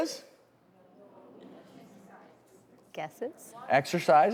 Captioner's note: crowd murmuring